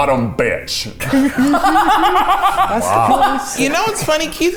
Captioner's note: everyone laughs